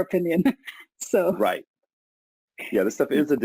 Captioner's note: laughs